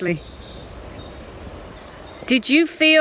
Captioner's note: birds chirping